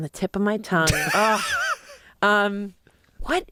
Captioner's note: laughs